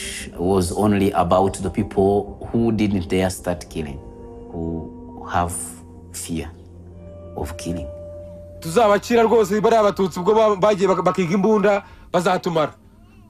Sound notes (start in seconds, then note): 8.3 Jean Kambanda speaking Rwanda-Rundi over speakerphone